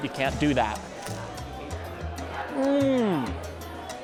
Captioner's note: bites into sandwich